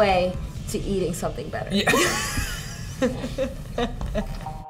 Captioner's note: laughter